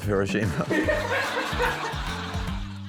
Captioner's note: laughs; laughter